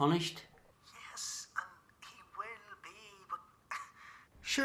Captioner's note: scoffs